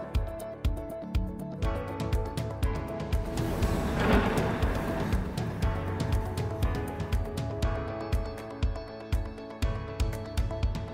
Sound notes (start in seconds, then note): 3.2 parachute rustling